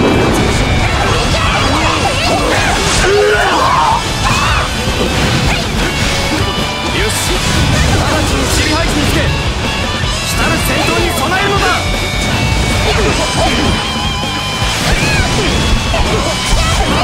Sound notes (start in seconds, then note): 2.4 KO Scream